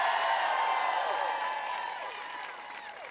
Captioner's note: applause